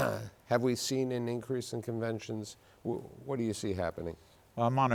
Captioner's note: clears throat